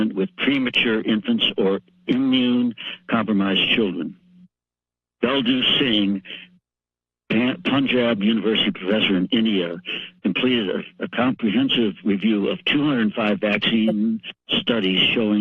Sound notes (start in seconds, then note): 5.2 pause